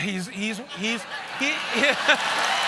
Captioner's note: cheers and applause